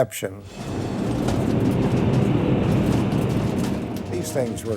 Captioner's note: jet engine roaring